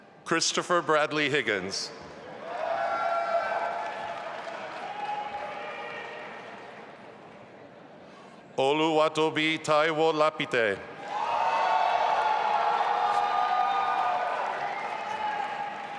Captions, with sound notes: Christopher Bradley Higgins. (audience applauding) Oluwatobi Taiwo Lapite. (audience applauding and cheering)